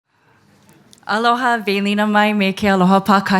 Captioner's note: speaking foreign language